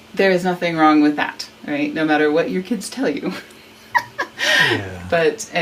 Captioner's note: laughs